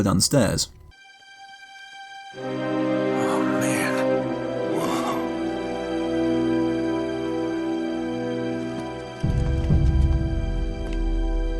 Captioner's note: in-game audio